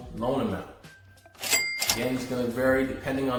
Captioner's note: cash register dings